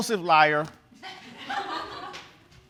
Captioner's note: audience laughing